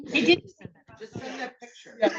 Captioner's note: attendees laughing; attendees chattering